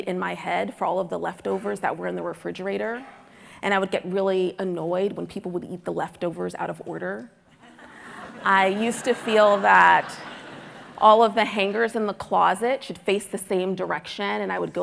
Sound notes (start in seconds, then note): 7.7 audience laughing